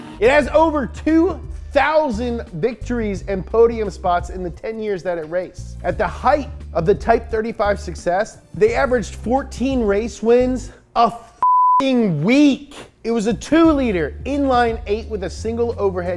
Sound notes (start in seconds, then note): 0.0 engine revving; 11.4 beep